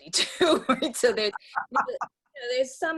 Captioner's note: laughs